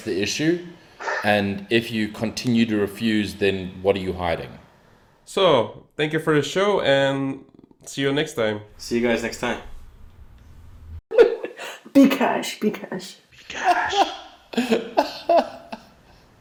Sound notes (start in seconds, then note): 13.4 laughs